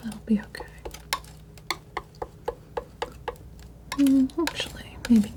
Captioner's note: tapping